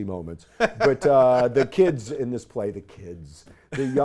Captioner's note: laughs